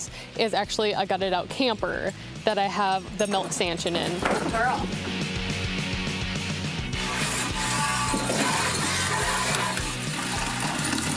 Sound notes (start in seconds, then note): 8.1 milk splashing